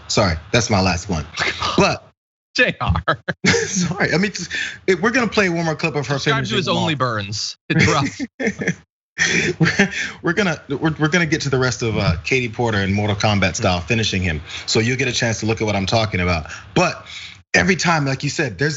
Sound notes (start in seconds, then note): 2.8 laugh; 7.7 laugh